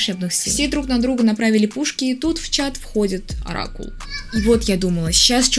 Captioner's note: screaming child outside